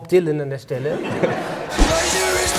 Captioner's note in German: Lachen